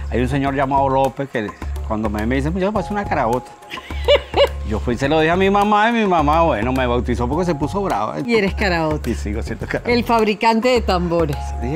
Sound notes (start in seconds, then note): 3.7 laughs